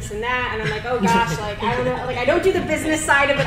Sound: panel laughs

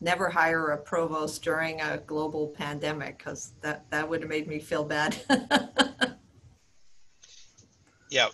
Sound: laughing

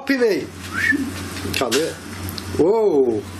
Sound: whistles

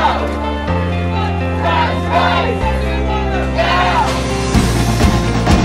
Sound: crowd

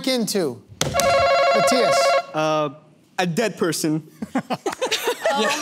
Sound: buzzer

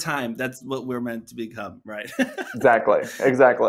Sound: laughs

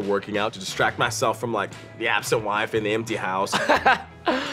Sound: laughs

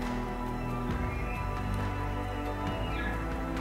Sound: caller bugling

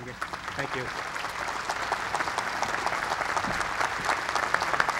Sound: applause

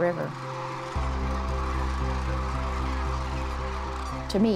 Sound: crane song

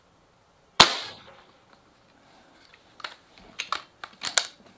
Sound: gun fires; gun cocks

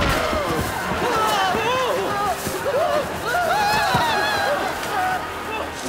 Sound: screaming

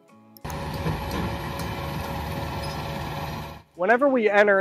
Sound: machinery running

